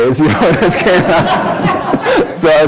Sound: laughter

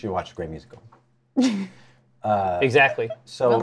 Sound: laughs

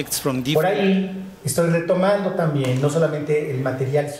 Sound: speaking spanish

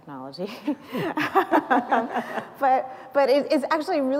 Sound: laughter

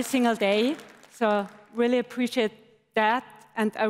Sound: applause

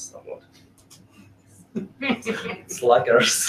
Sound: laughing

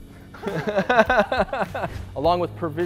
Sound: laughs

